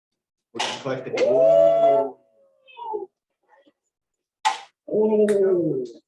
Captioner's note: cheering